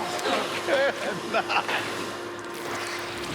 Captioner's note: laughs